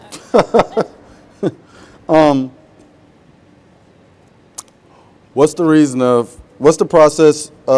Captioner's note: laughs